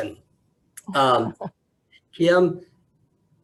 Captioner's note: chuckles